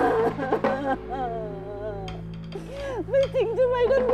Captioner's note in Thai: เสียงร้องไห้